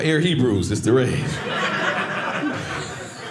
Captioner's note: audience laughing